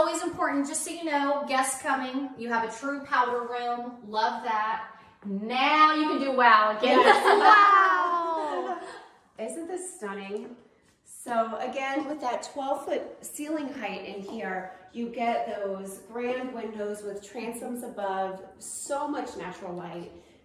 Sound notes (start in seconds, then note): 6.9 laughing